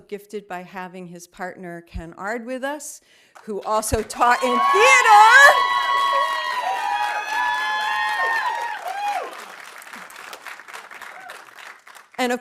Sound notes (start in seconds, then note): 5.7 audience applauding; 5.7 audience cheering